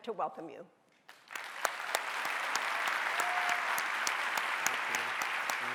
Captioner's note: audience applauding